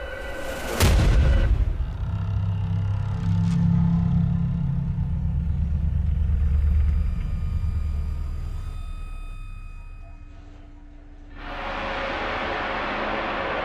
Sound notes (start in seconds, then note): 0.5 sudden ominous music; 1.8 door creaking; 4.4 soft tense music; 11.3 sudden ominous music